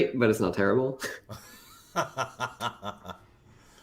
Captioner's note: laughs